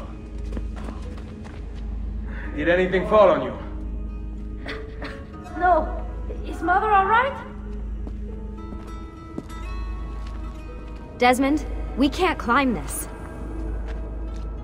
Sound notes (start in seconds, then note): 4.6 Claudia coughs